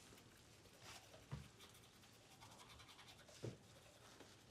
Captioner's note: brushes teeth